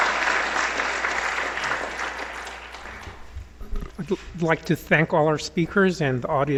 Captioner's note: applause